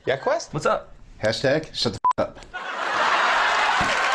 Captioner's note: beep; crowd laughing